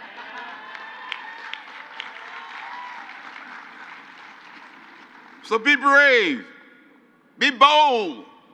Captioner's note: crowd cheers